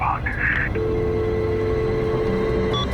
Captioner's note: dial tone